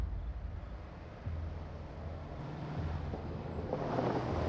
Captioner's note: car approaching